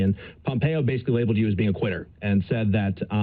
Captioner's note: none